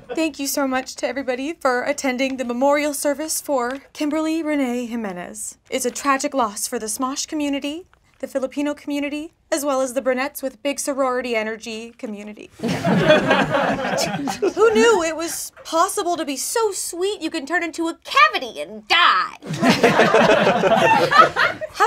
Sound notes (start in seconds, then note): 12.6 laughing; 19.4 laughing